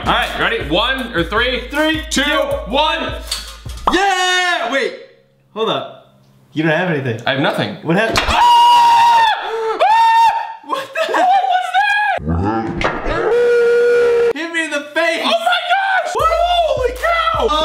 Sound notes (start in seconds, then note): 12.2 slow motion screaming